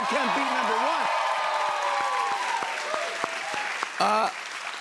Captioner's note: cheers and applause